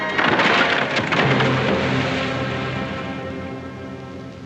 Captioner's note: crash; water splashes; soft ominous music